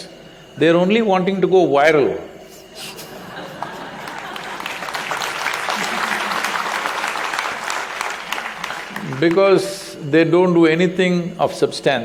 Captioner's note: laughter/Applause